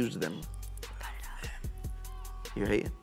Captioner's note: whispering